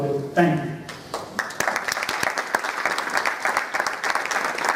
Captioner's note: applause